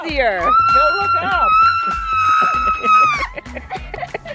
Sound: screaming

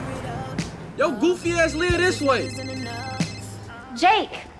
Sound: phone ringing

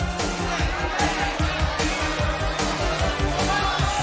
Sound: applause

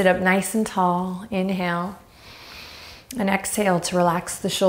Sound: inhaling deeply

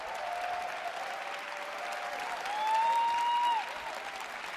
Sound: applause

